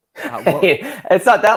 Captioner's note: laughing